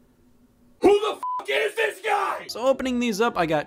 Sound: beep

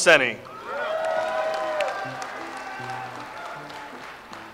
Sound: audience applauds

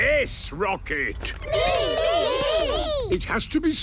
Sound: calling out in turn

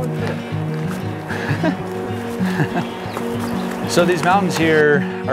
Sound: laughs

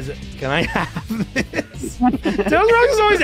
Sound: laughter

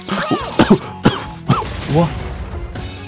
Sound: coughs in disbelief

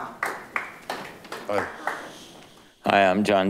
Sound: light clapping

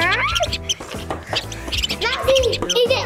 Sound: squeaky mouse noise

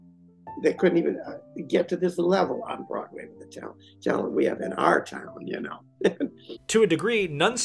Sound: chuckle

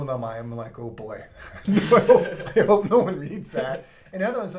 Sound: laugh

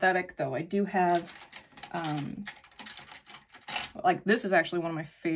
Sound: make up brushes clacking

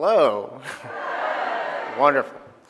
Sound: crowd

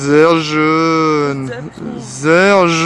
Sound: german

